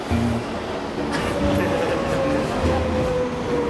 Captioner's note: laughing